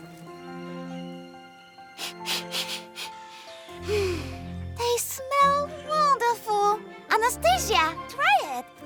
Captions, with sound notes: [sniffs] [sighs] They smell wonderful! Anastasia, try it!